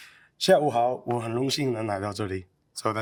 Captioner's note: speaking in Chinese